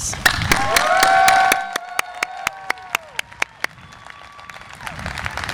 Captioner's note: audience applause and cheer